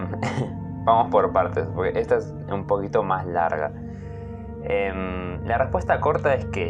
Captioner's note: laughs